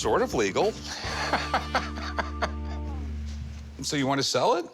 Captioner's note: laughs